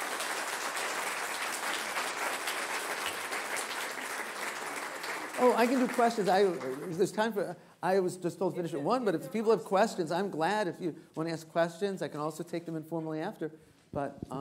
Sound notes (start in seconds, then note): 3.5 applause